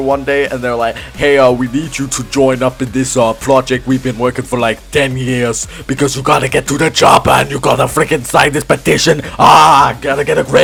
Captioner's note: in a very terrible Arnold Schwarzenegger accent